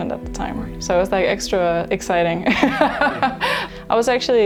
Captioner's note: laughs